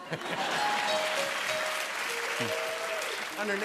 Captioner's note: laughter